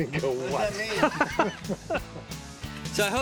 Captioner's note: laughs